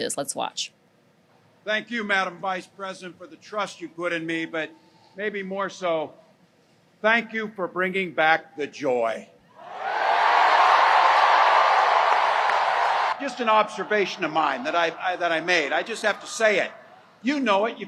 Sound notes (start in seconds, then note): 9.6 crowd cheering, applause